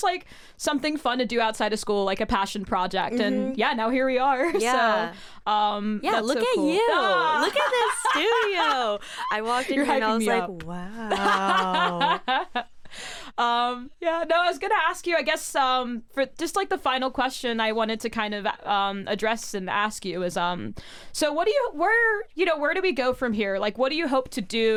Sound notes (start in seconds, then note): 9.8 laughs; 13.8 laughs